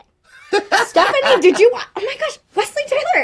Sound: he laughs

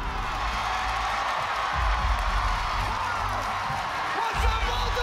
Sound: cheers and applause

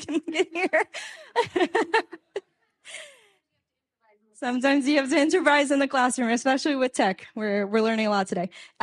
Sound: laughs

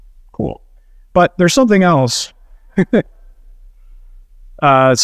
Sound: chuckles

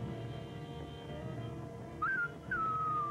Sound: whistle

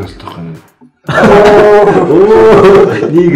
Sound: laughs

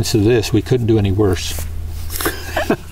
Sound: laughter

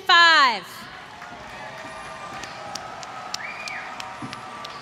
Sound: applause

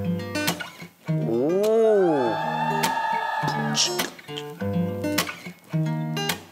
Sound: Beat-box to Mark's music

